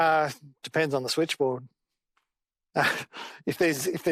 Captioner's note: chuckles